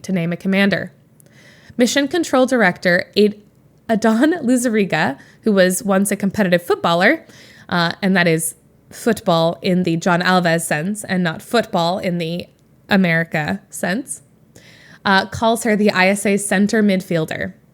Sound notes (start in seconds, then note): none